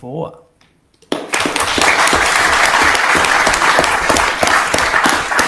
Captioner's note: council applauding